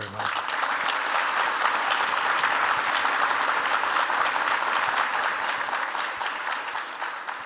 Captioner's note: audience applause